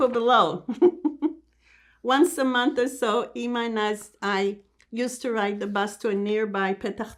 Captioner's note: laughing